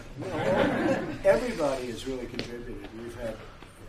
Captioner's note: laughter